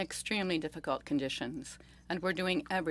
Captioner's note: speaking French